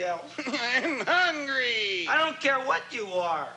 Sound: cries

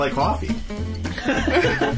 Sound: laughing

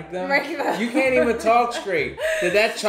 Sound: laughs

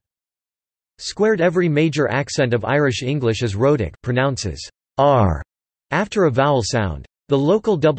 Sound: pronounces "r" after a vowel sound

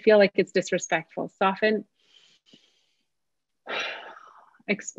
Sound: takes deep breath

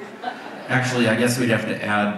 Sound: audience laughs

